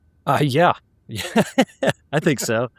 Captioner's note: laughing